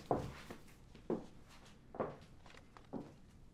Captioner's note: footsteps